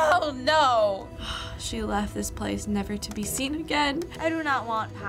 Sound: gasping

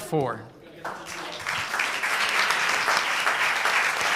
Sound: applause

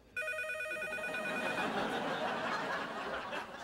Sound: phone continues ringing

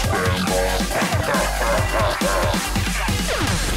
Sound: laughs

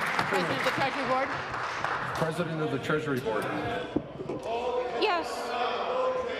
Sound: applause

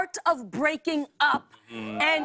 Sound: crowd cheering

